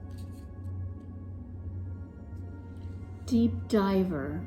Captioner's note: cards shuffling